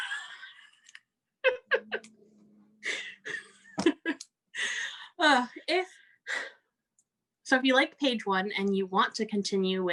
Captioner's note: laughs